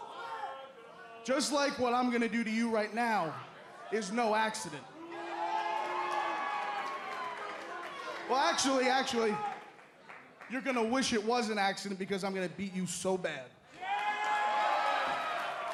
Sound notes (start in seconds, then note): 8.3 crowd cheering; 9.5 crowd chatter